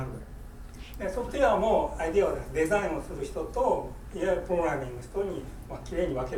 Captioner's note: speaking in foreign language